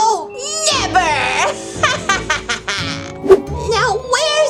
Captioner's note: evil laugh